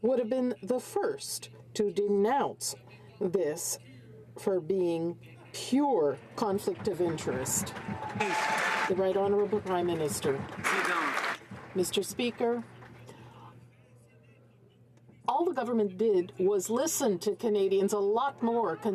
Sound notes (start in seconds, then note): 12.1 some Applause